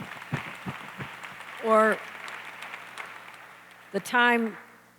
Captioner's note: applause